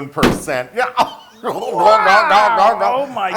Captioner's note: laugh